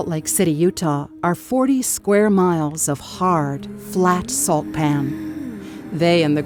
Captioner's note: sound of a car engine